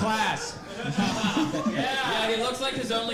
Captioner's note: audience laughing